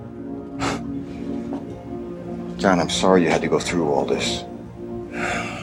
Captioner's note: laughs